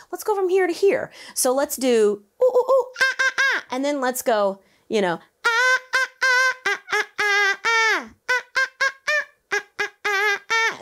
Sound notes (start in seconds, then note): 2.1 imitates monkey hooting